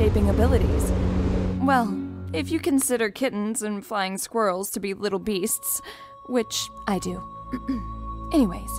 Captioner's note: clears throat